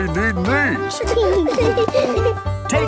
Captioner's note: laughing